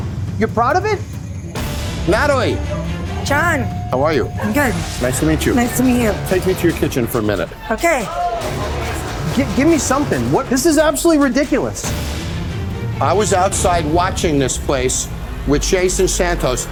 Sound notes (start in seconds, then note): 8.6 chatter; 11.6 dramatic music